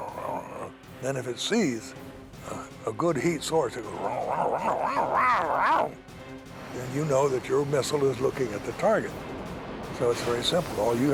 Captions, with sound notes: Then, if it sees a good heat source-- [growling] Then, you know that your missile is looking at the target. So it's very simple.